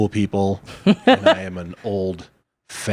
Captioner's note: laughs